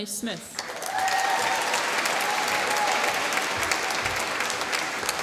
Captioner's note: applause